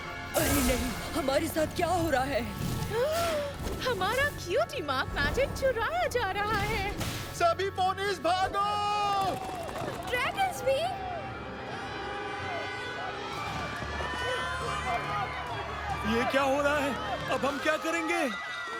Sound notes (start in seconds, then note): 2.9 Elder Flower gasps; 9.1 screaming